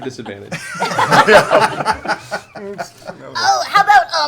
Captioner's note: laughter